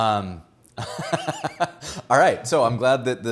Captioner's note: laughs